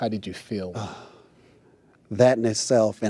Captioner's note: sighs